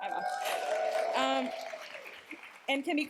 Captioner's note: cheers, applause